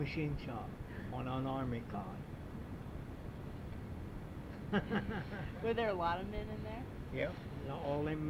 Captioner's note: laughs